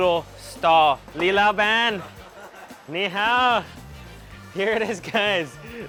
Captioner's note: speaks in a foreign language